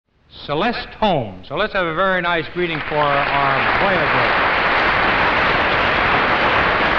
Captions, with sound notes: - CELESTE HOLM SO LET'S HAVE A VERY NICE GREETING FOR HER [AUDIENCE APPLAUSE DROWNS OUT HOST]